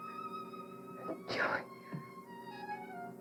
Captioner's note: whispering; dramatic music